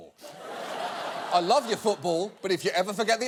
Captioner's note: audience laughing